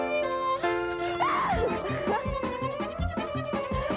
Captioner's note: <i> screams</i>